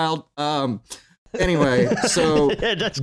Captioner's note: laughter